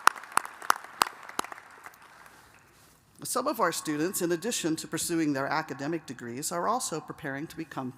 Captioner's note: applause